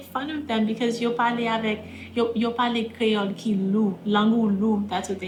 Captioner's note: speaking in Creole